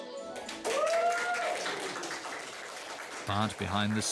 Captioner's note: cheering and applauding